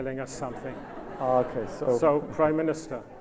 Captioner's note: audience laughs